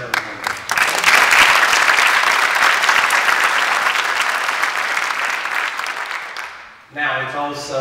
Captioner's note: applause